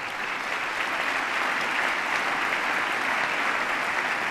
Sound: applause

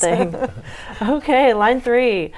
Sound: laughing

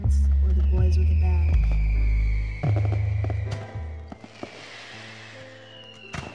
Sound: fireworks popping; slow piano music

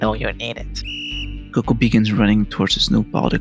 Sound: whistle

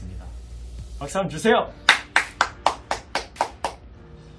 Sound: applause

